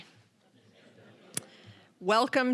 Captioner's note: audience chuckling